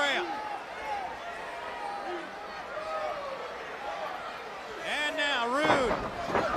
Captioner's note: crowd chatter